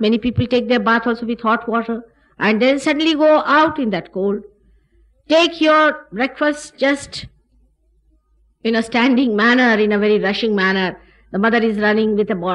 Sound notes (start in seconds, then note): none